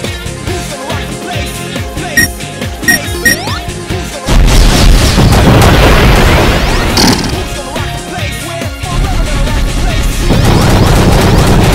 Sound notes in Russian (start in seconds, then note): none